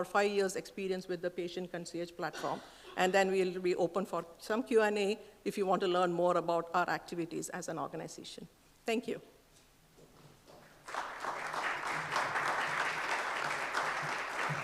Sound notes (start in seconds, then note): 10.6 applause